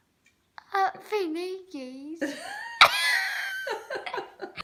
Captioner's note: giggling